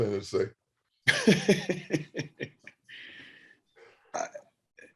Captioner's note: Frank laughs